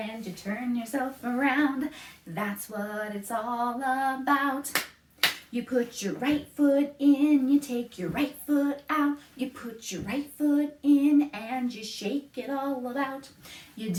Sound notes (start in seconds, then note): 5.2 clap, clap